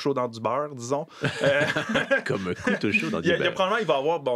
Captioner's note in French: rires